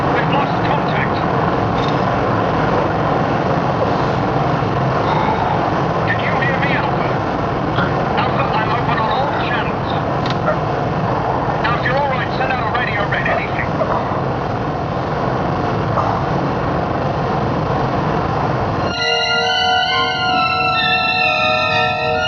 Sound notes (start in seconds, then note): 5.0 John suspira; 13.9 John ofegante; 18.8 música de suspense